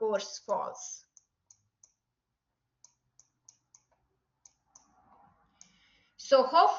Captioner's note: silence